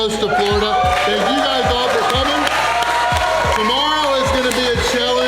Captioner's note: crowd cheering